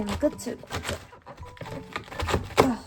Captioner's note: aggressive chopping sounds